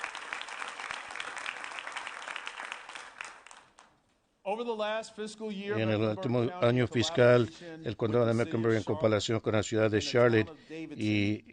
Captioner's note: applause